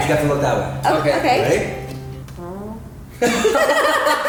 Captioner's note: fart; laughing